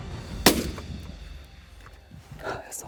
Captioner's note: rifle fires